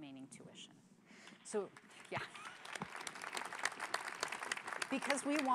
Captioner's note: applause